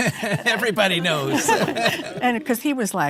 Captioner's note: chuckles